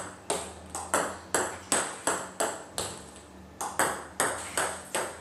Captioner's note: ball ping pong hitting continues